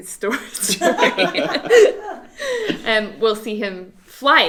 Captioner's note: all laughs